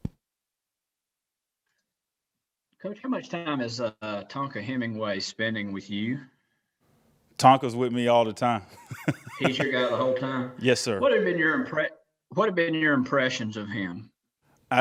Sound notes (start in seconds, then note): 8.7 laughter